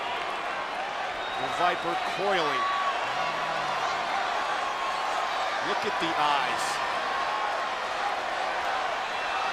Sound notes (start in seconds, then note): 3.4 applause